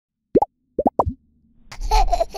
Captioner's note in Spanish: burbujas; risas de bebe